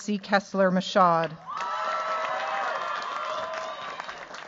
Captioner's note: cheers, applause